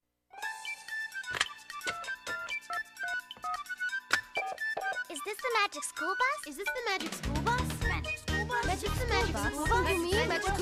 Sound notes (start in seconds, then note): 1.8 phones dialing